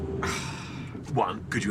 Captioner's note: sighs